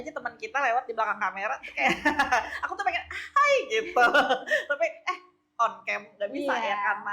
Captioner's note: laughs